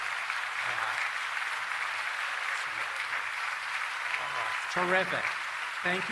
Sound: applause

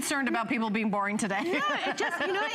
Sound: laughter

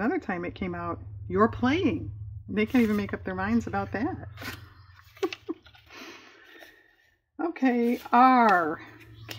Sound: laughs

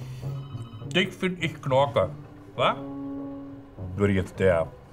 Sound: speaks Berlin dialect

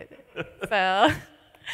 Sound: laughs

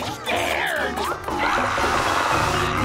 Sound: screaming

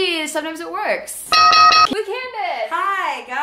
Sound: bell ringing

